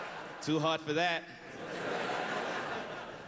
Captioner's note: laughter